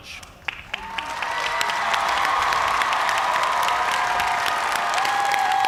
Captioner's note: cheers and applause